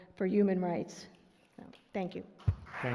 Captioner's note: applause